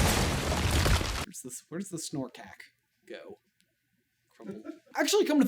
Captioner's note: laughing